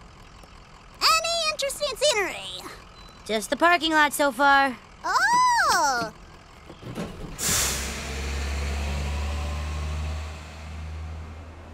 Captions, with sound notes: Any interesting scenery? - Just the parking lot so far. - Oh! (engine revving)